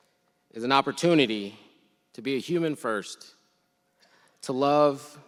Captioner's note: none